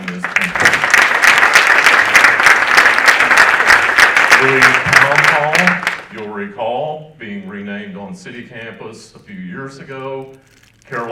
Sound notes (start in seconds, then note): 0.0 audience applauding